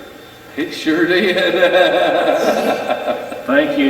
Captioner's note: chuckles